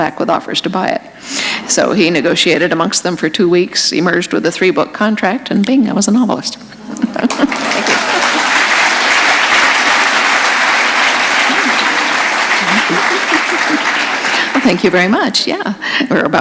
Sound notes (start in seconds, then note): 6.9 laughter; 8.5 applause